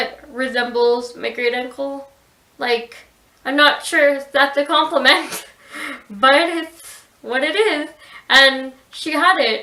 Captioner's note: laughs